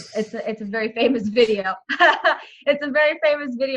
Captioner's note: laughs